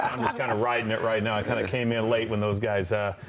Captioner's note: laughter